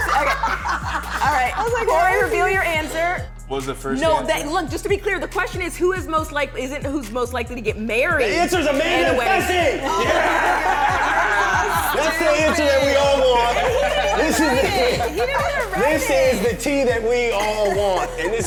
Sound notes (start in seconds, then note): 0.0 laughing